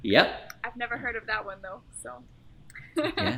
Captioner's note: laughs